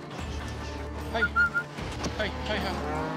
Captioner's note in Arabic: صافرة